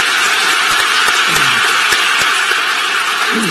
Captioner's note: applause